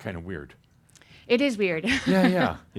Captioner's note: she chuckles